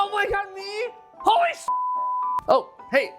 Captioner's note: beep